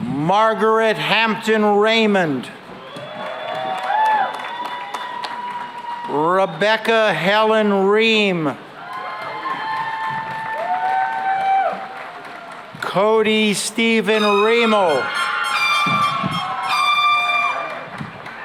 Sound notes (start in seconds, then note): 2.6 cheering and applause; 8.6 cheering and applause; 16.4 air horns